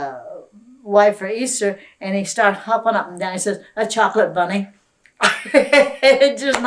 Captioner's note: laughter